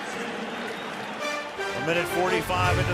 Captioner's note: pa announcement